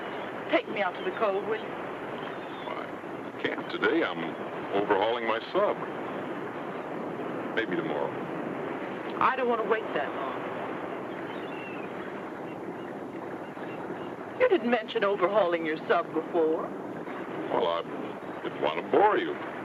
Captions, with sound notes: - Take me out to the cove, will you? - Well, I can't today. I'm overhauling my sub. Maybe tomorrow. - I don't wanna wait that long. (seagulls caw) - You didn't mention overhauling your sub before. - Well, I didn't wanna bore you.